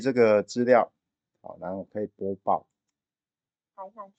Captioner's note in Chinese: tts語音